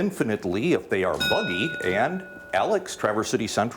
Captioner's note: bell dings